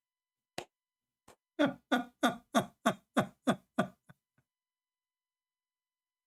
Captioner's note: ketawa